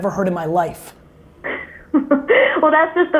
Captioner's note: laughs